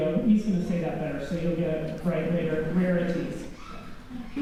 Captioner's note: laughter